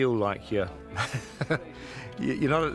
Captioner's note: jackson chuckles